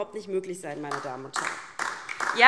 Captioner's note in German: Beifall DIE LINKE